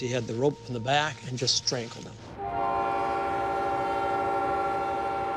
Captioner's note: train whistle blows